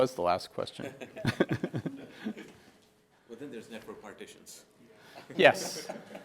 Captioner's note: laugh